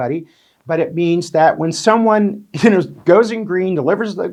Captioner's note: chuckles